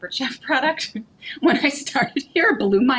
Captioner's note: chuckling